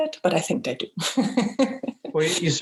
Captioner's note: laughs